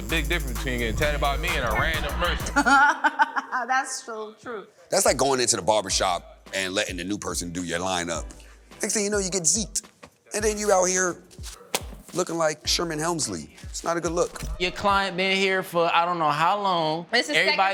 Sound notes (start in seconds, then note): 2.3 laughs